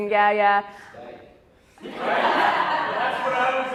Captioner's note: audience laughs